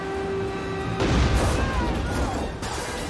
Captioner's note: explosion